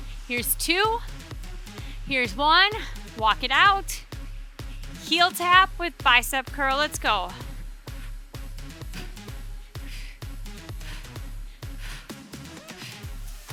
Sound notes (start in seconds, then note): 7.2 breathing deeply; 7.7 upbeat music continues